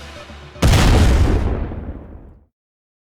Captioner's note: explosion!